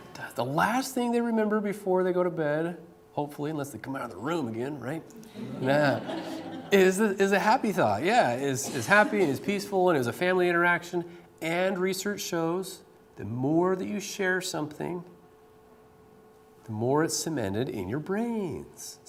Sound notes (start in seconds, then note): 5.3 laughter